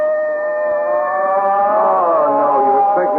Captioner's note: baby crying